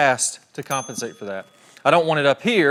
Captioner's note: bell dings